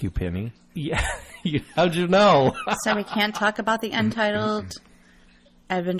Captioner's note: DJ laughs